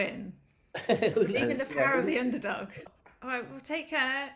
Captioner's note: laughter